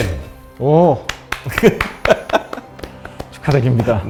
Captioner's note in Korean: 웃음